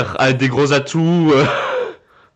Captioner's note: giggle